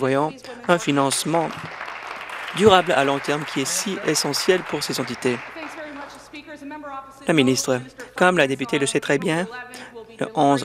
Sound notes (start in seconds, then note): 5.0 applause